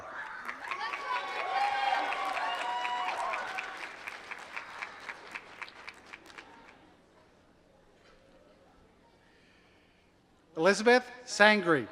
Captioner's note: applause